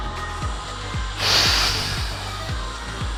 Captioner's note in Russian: Выдох